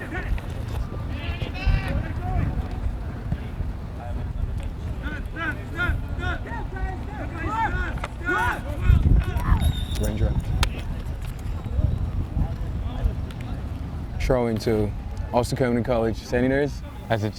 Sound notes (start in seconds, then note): 0.2 players shouting; 9.5 whistle tweeting